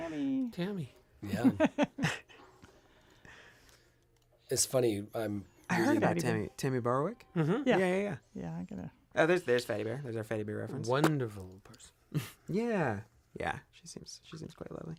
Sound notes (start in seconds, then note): 1.3 laughter